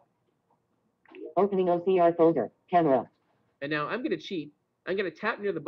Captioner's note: Siri talking